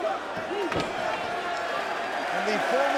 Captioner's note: table clunks